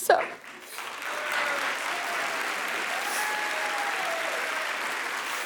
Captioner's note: audience applauding